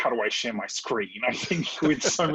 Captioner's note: laughs